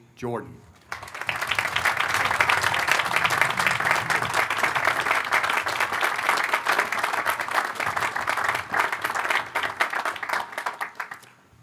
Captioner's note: applause